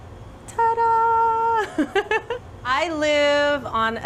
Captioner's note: laughs